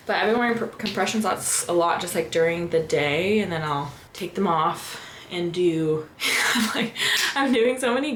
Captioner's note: laughter